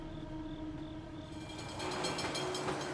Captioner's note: tram bell ringing